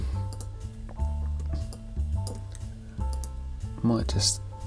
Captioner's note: mouse clicking